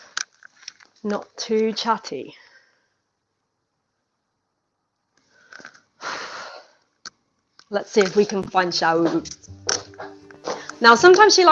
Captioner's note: sighs